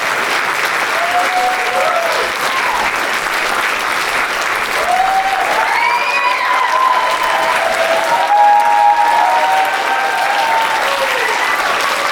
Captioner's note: applause